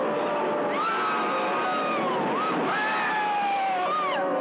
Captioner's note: screaming from rollercoaster